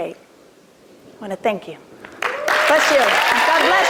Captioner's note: applause